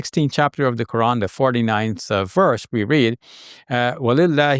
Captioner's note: speaking in foreign language